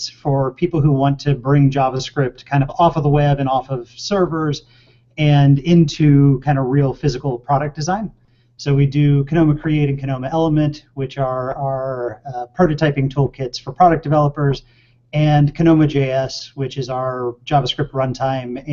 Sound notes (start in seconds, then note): none